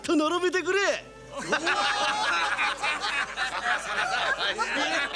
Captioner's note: laughter